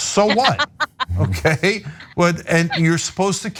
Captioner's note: laugh